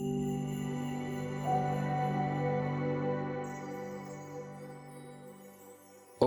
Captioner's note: chime Sound